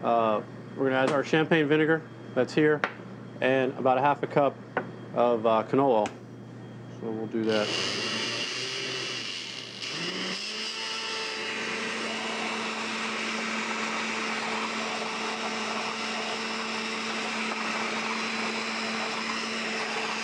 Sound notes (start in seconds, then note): 9.3 loud grinding noise